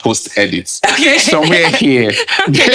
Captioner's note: laughing